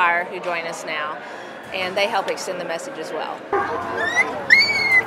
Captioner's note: dog whimpering